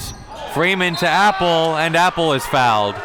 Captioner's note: whistle blows